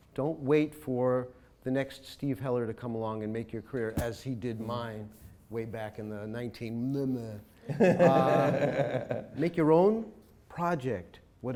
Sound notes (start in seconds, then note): 7.7 chuckles